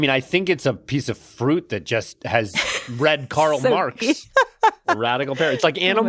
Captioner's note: laughs